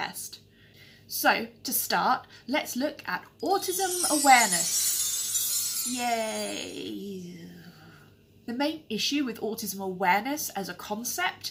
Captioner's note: tinkling sound